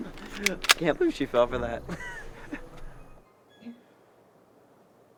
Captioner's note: laughing